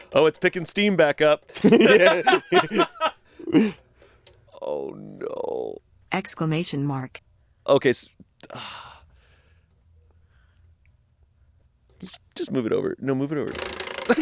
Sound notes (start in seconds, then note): 1.5 laughing; 8.4 sighs